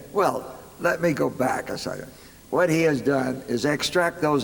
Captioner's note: none